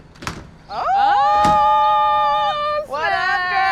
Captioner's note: exclaiming